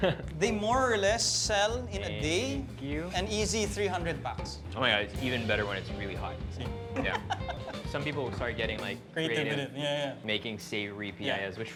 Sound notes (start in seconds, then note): 7.0 laughs